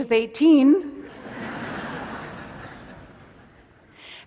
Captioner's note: laughter